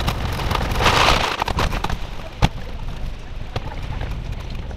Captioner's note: cart wheels rattling